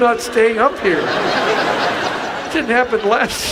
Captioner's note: audience laughs